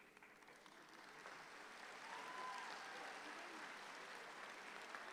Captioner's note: audience clapping